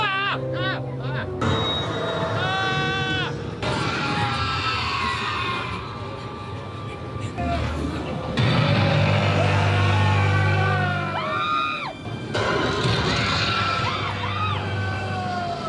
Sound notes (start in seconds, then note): 0.1 screams; 10.1 growling; 10.1 screams